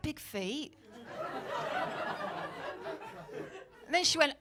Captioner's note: audience laughing